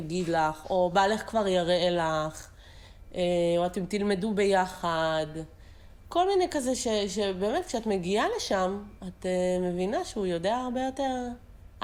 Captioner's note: Hebrew